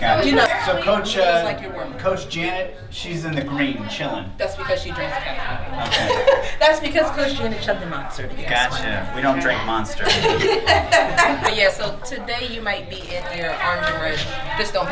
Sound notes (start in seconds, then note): 5.8 laughs; 10.0 staff member laughs